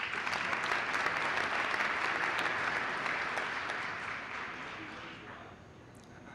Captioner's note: applause